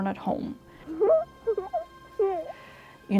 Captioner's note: child giggling